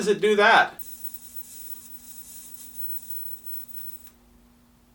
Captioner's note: high pitched hissing